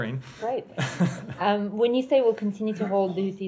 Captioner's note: laughter